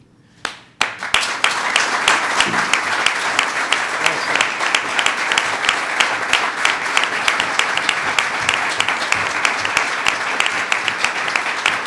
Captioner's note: applause